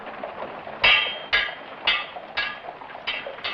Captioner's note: metal clanking